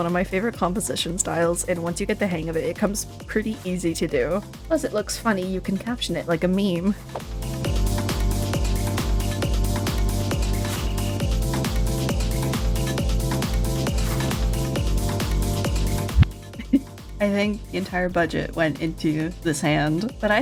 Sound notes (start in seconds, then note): 16.4 laughs